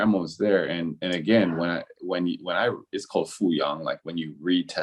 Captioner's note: speaking in a foreign language